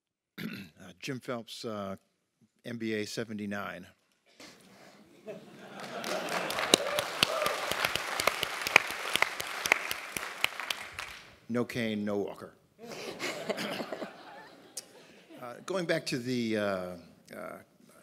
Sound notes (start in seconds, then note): 0.4 cough; 5.0 laugh; 5.7 applause; 12.8 laugh